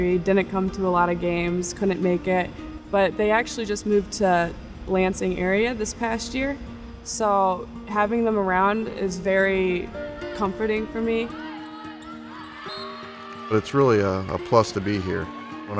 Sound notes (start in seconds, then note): 11.1 woman shouting; 11.5 whistle blows; 13.2 crowd clapping